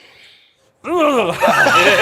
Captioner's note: groans in frustration; laughter